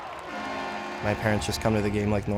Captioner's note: crowd cheering; horn blaring